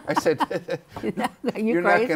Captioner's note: laughter